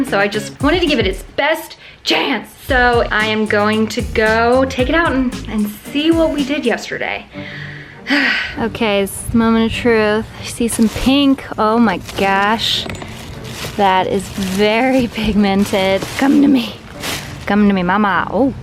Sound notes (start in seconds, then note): 7.7 sighs; 8.3 dramatic music